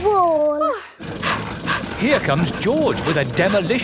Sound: daddy pig panting

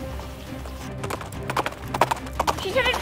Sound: galloping

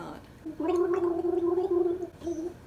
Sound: Hajime gargles

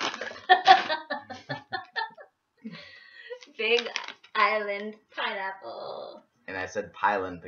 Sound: laughter

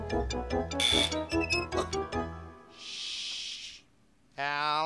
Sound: buzz

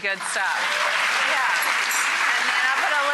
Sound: applauds

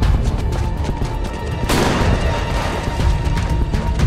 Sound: gunfire

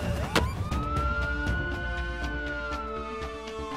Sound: siren

